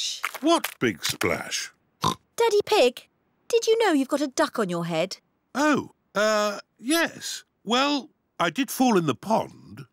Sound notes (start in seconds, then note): 2.0 oinks